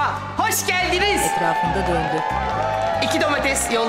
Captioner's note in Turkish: Alkış ve ıslık sesleri